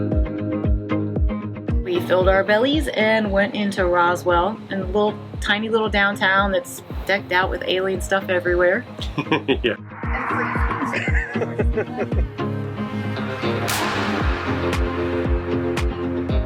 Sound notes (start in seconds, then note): 9.0 chuckles; 10.3 laughs; 12.5 steady country rock music